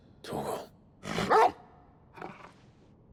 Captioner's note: bark